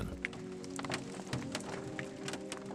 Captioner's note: water drips